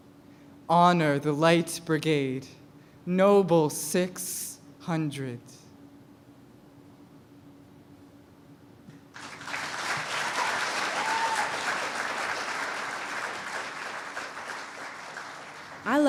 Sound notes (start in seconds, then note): 4.6 cheers and applause